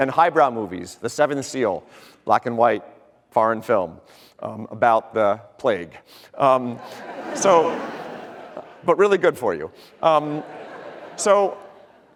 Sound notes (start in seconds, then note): 6.6 audience laughter